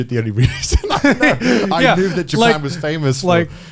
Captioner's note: all laughing